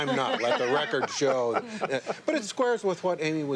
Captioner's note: laughter